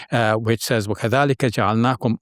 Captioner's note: speaks foreign language